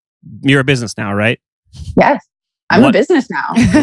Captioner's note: laughs